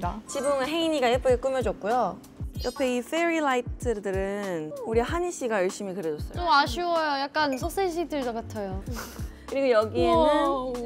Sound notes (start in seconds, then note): 8.7 cracks up